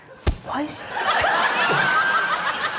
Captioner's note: thump!; laughter